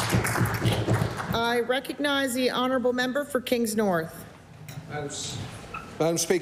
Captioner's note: applause